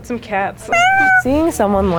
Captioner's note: cat meows